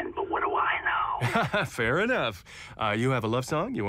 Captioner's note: laughs